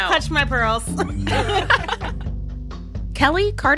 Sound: laughter

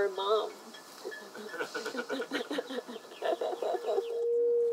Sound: laughter

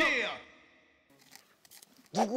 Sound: rustling

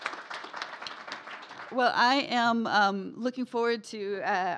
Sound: applause

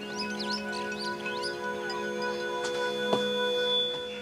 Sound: birds chirping

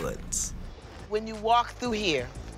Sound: none

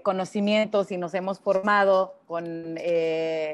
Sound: speaking Spanish

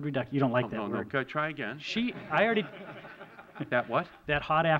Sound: laughter

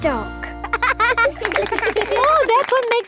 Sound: laughing

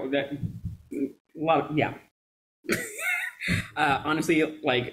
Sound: chuckles

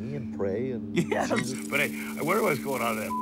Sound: laughs

